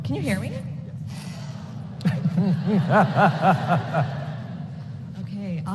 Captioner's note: laughter